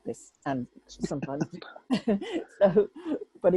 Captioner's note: both laugh